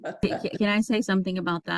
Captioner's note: chuckles